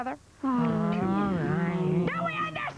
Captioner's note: groaning and sighing